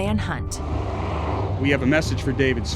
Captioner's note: helicopter flying